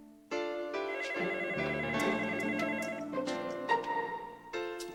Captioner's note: gentle dreamy music; telephone ringing; gentle dreamy music